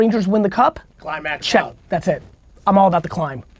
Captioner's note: pat